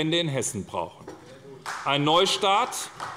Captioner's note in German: Beifall bei der SPD